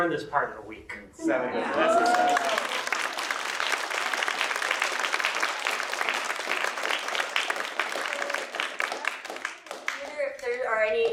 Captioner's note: applause